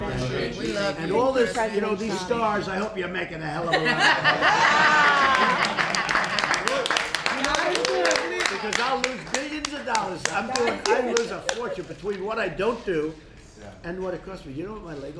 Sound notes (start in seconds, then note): 4.9 applause